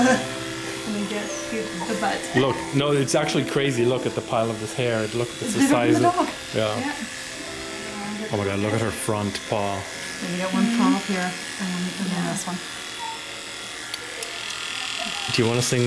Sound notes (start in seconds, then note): 12.9 whimper; 14.0 tongue clicks